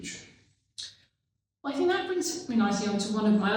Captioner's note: clicks tongues